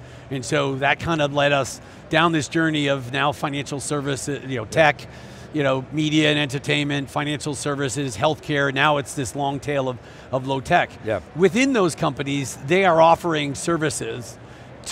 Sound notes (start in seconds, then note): none